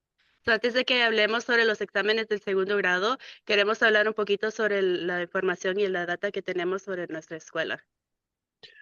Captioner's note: speaking in Spanish